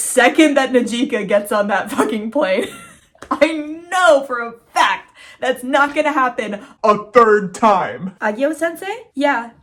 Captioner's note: laughing; distorted voice